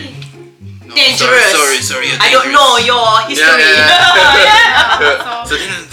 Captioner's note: laugh